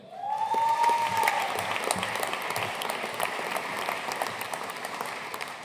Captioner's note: audience cheering and applauding